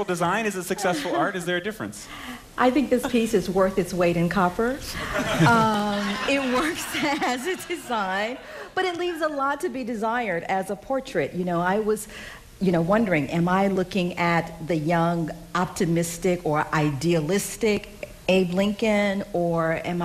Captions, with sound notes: PEOPLE TO A CERTAIN ACTION. DESIGN IS BEING USED TO GET VOTES. [LAUGHTER] WHAT DO YOU GUYS THINK? IS SIX SUCCESSFUL DOES IS IT SUCCESSFUL, DIET -- IS IT SUCCESSFUL? IT WORKS AS A DESIGN BUT LEAVES A LOT TO BE DESIRED AS A